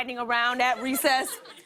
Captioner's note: laughter